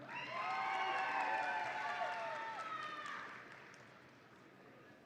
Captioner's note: audience applauds and cheers